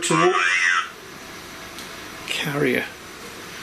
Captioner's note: computer voice